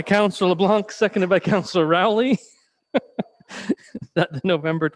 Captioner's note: laughing